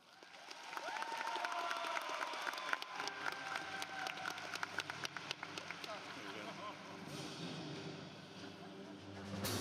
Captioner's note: applause